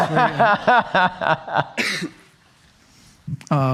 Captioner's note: laughing